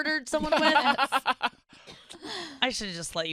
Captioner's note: laughs